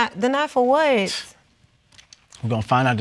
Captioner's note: scoffs